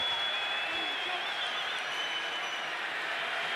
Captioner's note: crowd cheering